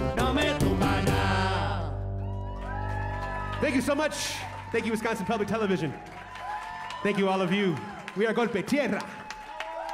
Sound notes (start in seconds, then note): 2.2 saludos y aplausos; 3.0 cheers and applause